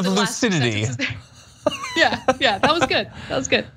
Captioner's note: laugh